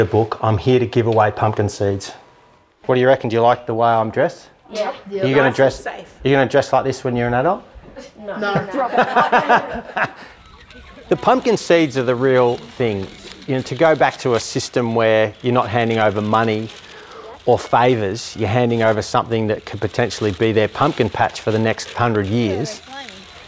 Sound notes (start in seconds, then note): 8.3 laughter